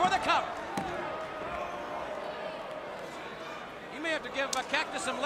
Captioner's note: crowd chatter